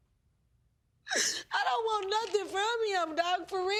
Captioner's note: sobbing